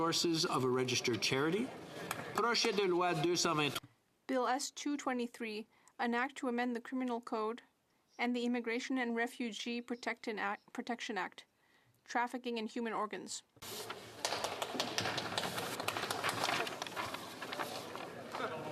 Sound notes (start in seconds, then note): 6.5 speaking French